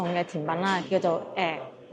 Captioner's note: pronounced in Shunde dialect